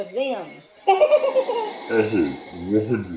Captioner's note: laughs